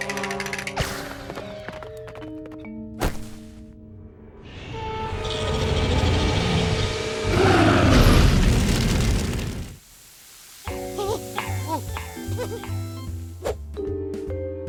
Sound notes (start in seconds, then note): 5.0 growling; 7.7 roars